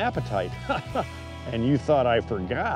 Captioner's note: laughs